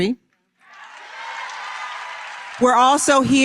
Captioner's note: applause